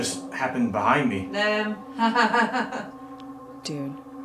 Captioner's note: mocking laughter